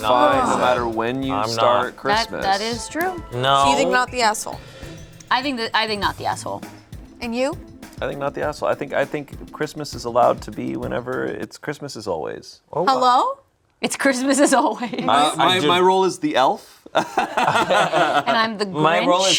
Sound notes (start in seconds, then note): 16.9 group laughs